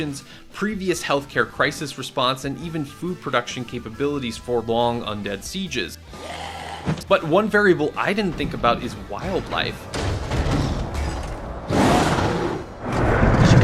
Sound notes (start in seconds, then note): 6.1 zombie growling; 10.7 tiger growls